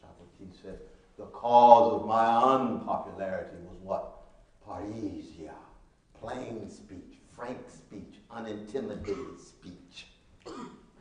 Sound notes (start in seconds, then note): 4.9 speaking Latin